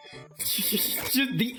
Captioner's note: chuckles